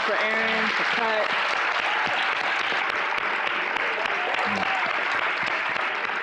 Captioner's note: audience cheering and applauding